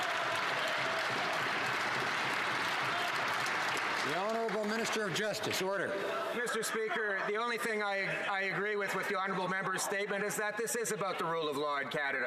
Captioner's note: some Applause